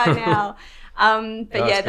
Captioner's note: laughs